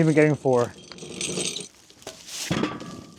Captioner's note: woodcutting machine rattling; metal clanking